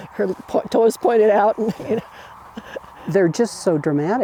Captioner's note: chuckling